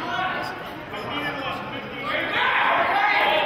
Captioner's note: yelling